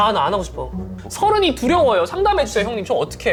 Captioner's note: complaining